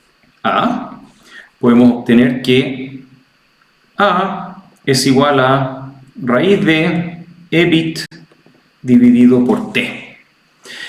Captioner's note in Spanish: carraspeo